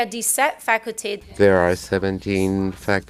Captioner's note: speaking in French